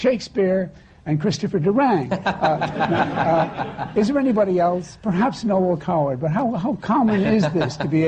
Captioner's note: laughter